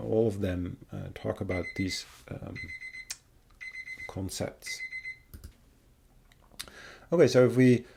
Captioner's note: alarm beeping